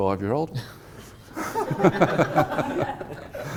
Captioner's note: laughing